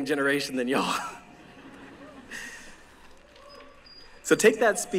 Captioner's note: laughter